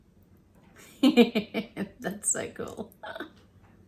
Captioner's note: chuckles; giggles